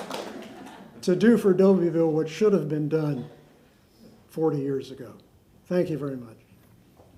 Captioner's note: applause